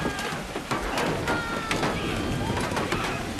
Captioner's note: thunder crashes